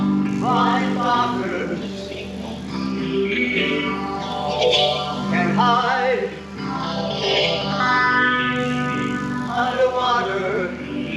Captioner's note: WWII USN klaxon with each name